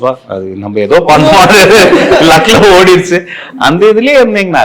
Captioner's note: laughs